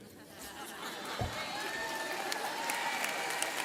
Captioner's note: audience laughing; audience cheering